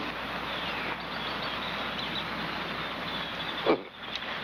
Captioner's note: chirping; gagging